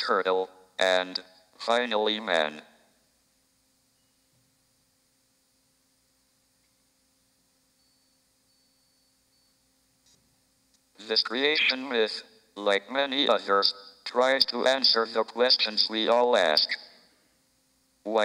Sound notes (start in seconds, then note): none